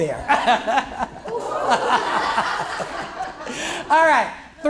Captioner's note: laughter